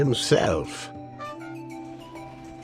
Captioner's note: doot